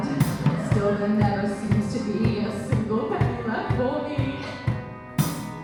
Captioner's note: crying